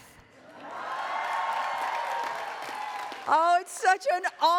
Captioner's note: attendees cheering